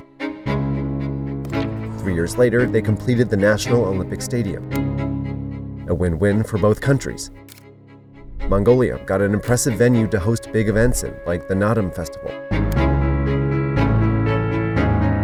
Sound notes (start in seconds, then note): 0.3 mysterious music; 7.3 camera clicks; 12.6 lively music